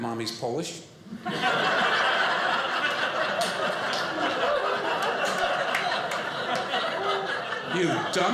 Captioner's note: audience laughing